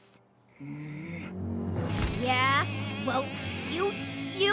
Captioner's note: growls